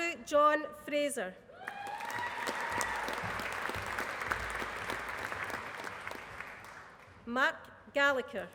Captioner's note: applause